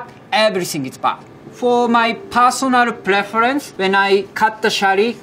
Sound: text chiming

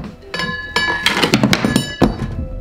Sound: bells sound; thud

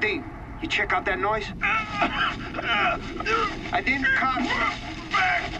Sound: groaning; strained

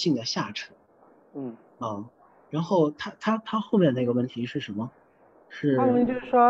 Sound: makes an agreeing sound lightly; Mandarin

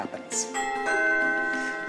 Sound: doorbell rings

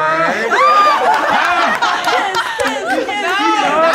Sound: all laughing

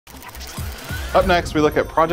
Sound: device whirring

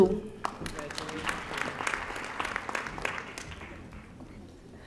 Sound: audience applauding

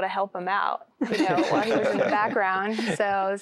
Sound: laughter

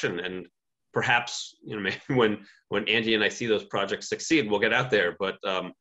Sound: chuckles

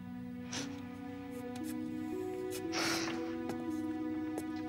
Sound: sobbing

